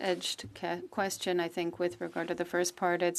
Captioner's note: speaking French